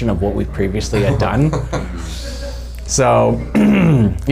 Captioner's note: laughing